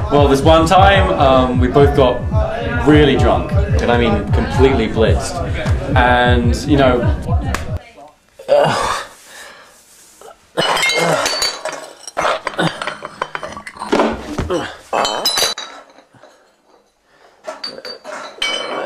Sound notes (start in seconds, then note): 8.3 drunken groaning